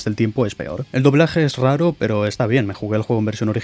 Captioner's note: Spanish